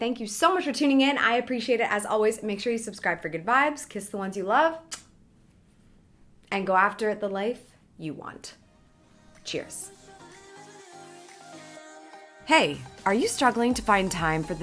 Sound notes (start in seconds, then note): 4.9 kisses; 10.6 light music